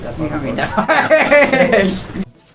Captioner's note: laughter